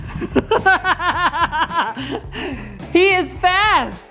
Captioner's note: laughing